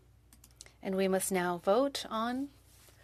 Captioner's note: speaking French